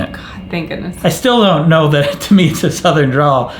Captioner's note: chuckles